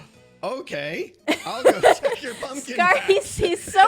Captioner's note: laughs